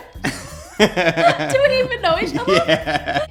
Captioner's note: laughs